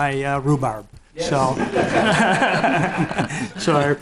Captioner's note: laughing